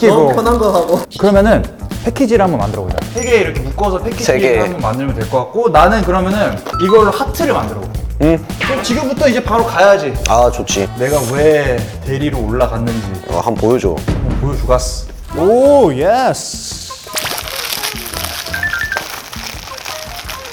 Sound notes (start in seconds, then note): 15.2 crunching Started the PD quickly